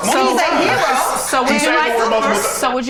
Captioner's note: overlapping chatter